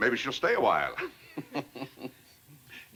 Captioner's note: chuckles